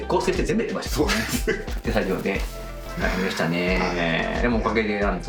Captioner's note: laughs